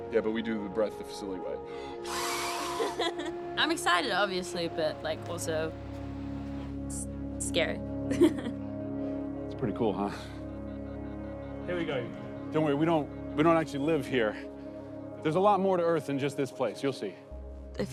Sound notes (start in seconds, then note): 1.9 blows; 2.0 laughs; 8.1 laughs